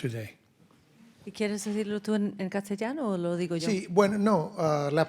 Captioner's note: speaking in Spanish; host speaking in Spanish